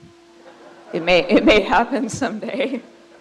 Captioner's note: crowd laughs